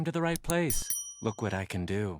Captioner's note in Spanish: suena la campana